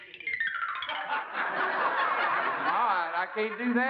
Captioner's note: laughter